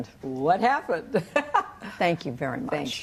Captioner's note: laughter